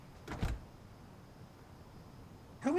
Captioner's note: door shuts